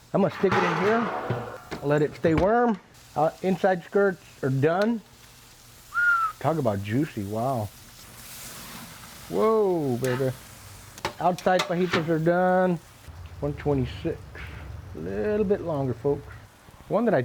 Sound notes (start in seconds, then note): 6.0 low whistle; 7.9 sizzling